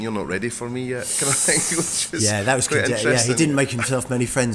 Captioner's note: sucking through teeth